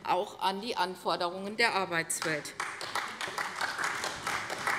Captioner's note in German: Beifall bei der CDU und dem BÜNDNIS 90/DIE GRÜNEN